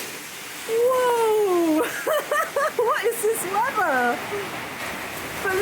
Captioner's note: laughing